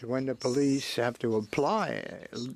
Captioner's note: speaking French